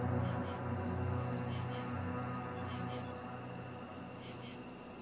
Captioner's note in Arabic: الصراصير النقيق